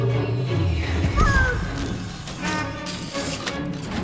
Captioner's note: exclaims in panic